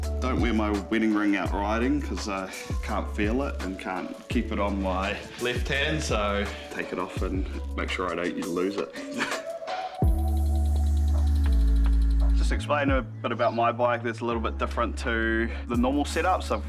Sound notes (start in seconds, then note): 9.3 chuckles; 10.0 mellow music